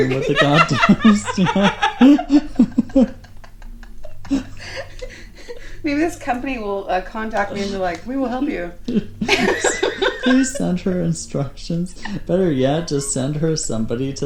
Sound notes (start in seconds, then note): 2.2 laughing